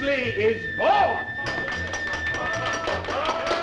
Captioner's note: applause